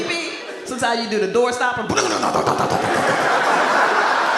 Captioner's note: imitates coil Springing; audience laughs